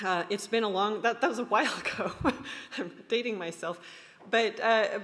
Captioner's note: laughs